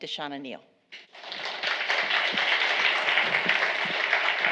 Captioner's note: applause